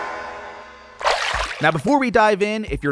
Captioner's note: splash